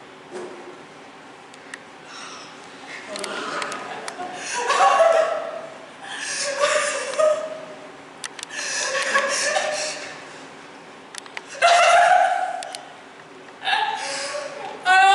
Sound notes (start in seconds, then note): 3.5 CLYTEMNESTRA laughs; 11.5 redoubled laughter